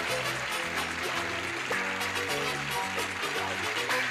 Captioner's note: clapping